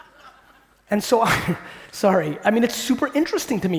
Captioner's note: laughing